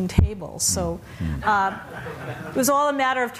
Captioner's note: laughter